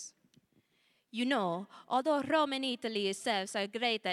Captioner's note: with Italian accent